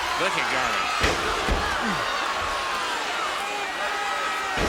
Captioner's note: crowd cheering